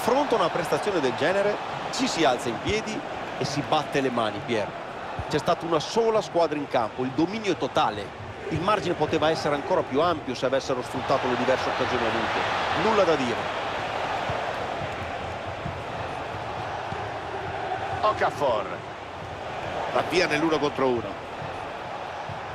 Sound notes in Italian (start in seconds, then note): 15.2 Applauso